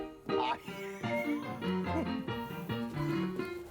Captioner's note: laughing